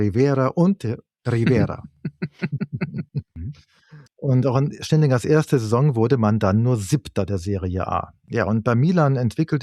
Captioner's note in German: gelächter